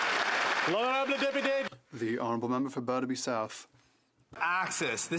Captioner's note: some Applause